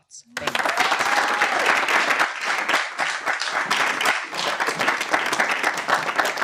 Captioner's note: audience cheering and applauding